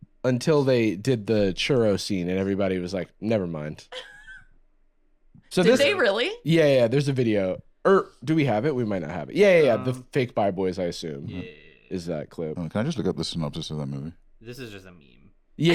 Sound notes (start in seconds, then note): 3.9 laughs